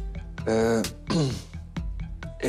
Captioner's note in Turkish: Boğazını temizledi